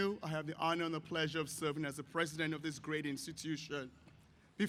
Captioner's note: none